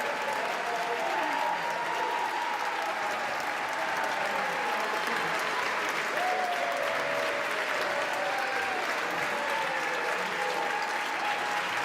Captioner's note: cheers and applause